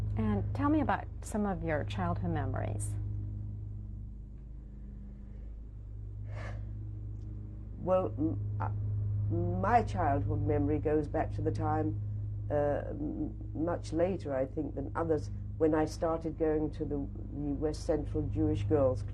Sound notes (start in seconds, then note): 6.2 sighs